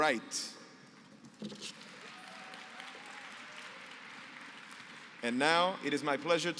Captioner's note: applause